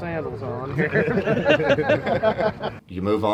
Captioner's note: group laughing